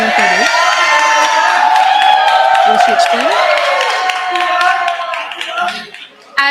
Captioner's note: audience cheering